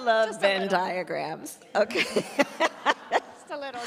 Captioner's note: laughs